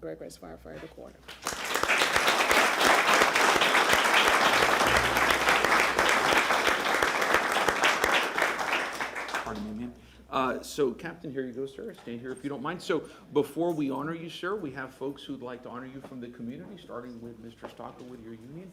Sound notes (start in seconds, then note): 8.2 applause